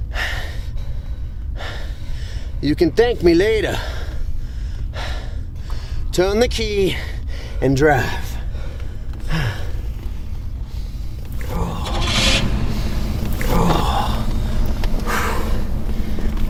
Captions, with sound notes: you can thank me later. Turn the key and drive. (groaning)